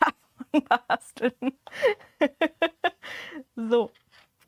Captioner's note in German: Gelächter